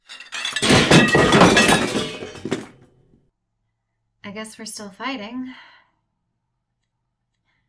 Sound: FX: Banging

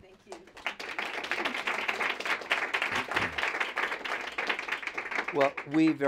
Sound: applause

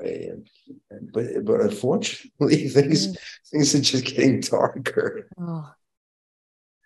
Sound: chuckles

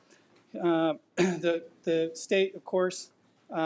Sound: clears throat

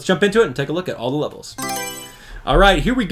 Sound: Mario Selection Sound

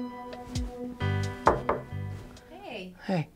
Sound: knocking on door

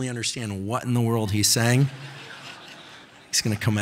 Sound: audience laughing

